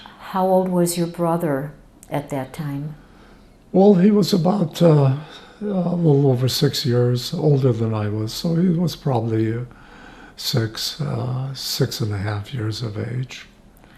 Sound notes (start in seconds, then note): none